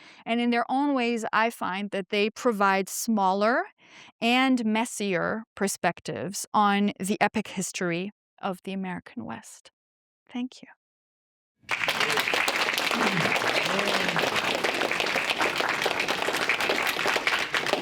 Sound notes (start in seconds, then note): 11.7 audience applauds